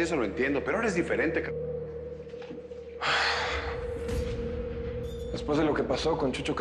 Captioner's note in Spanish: Suspiros